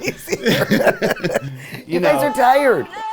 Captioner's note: laughs